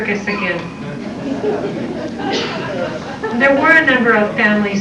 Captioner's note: laughter